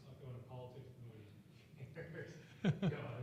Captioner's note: laughing